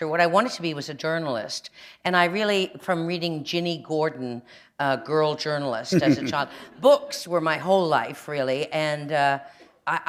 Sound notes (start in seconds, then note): 5.9 chuckle